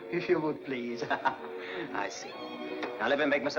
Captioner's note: laughs